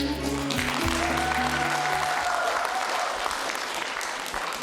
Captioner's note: applause